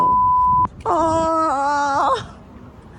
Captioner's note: groaning in disbelief